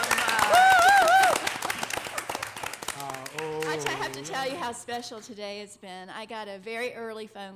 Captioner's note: applause